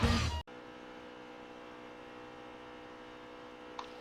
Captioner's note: car engine